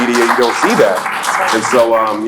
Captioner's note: applauds